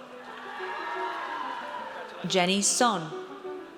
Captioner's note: audience cheers